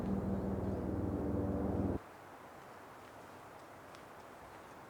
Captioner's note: motor rumbling